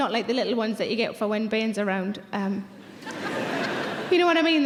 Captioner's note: audience laughs